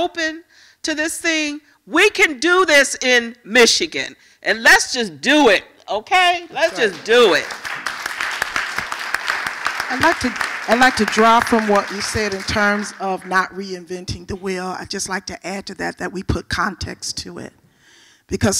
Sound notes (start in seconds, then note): 12.5 applause